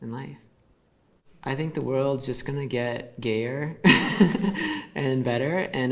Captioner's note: laughs